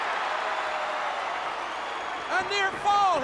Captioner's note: crowd Cheering